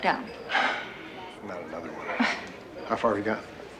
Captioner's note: sighing